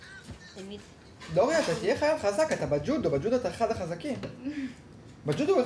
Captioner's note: speaking foreign language